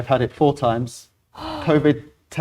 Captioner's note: gasp